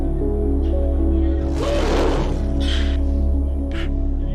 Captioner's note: gorilla cry